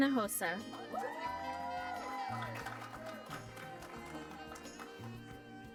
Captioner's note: applause